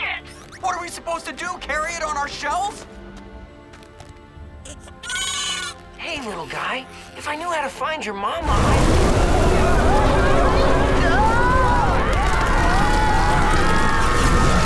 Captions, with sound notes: What are we supposed to do, carry it on our shells? [screeching] Hey, little guy, if I knew how to find your mama, I'd- [screaming]